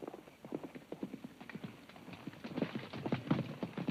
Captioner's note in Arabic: صوت حوافر